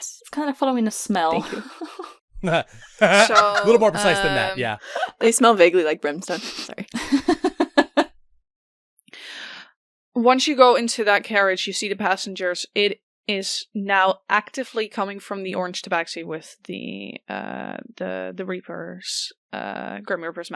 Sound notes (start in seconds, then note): 2.4 laughter; 6.2 laughs